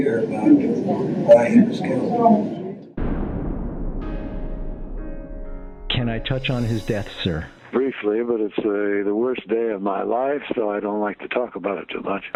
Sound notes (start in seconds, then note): 3.0 dramatic bang